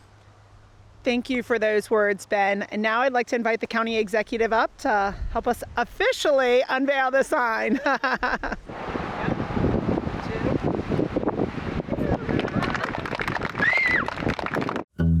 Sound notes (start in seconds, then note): 9.1 cheering and applauding; 15.0 country music plays